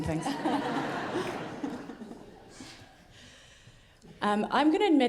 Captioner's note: audience laughing